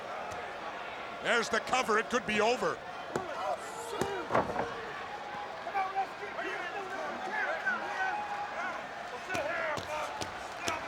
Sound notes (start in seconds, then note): 4.0 body thudding